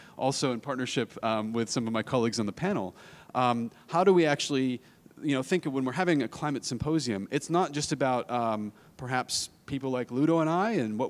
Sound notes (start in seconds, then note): none